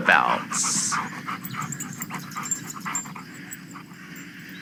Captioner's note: dog pants and walks away fx